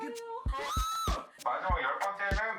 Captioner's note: pterodactyl sounds